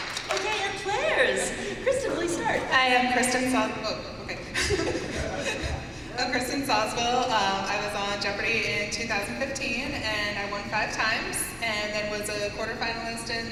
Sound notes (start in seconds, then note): 4.5 laughs